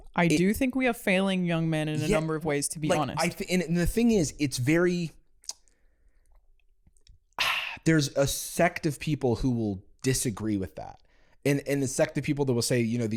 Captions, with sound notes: I do think we are failing young men in a number of ways, to be honest. And the thing is, it's very... (sighs) There's a sect of people who will disagree with that. And a sect of people that will say,